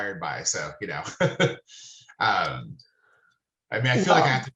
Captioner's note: laughing